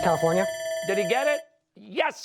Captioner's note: bell ringing